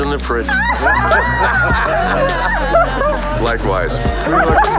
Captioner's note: laughter